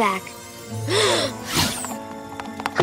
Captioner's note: gasps